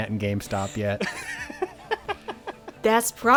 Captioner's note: laughing